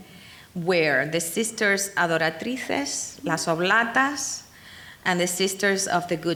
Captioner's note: speaking in foreign language